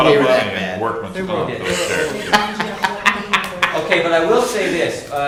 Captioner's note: laugher